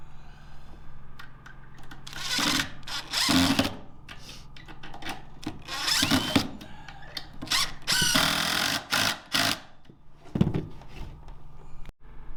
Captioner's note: saw whirring